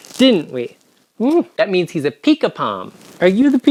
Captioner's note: smooches